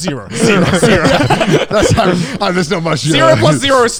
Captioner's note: everyone laughs